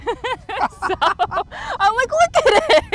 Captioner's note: person laughing